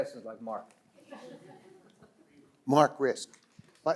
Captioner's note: listeners laugh